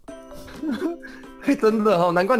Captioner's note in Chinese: 笑～